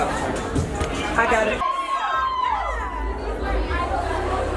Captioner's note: people chattering